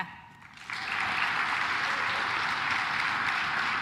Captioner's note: claps